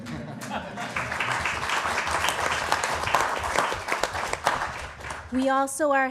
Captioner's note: applause